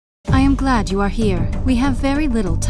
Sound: voiceover

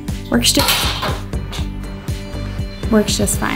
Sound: device crashing

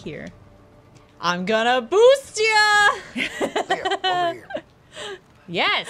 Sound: laughter

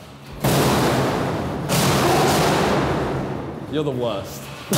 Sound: metal clanking

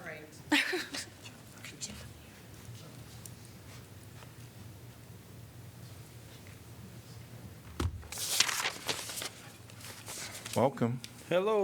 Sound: laughter

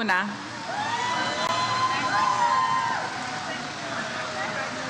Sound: audience cheers

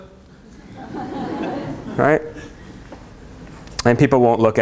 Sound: laughter

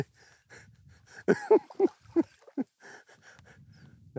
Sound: laughs

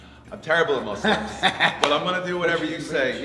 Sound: laugh

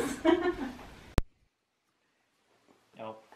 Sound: laughs

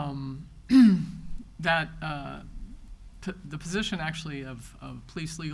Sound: clears throat

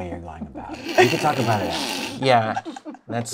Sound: laughter

